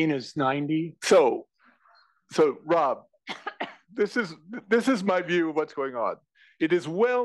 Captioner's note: cough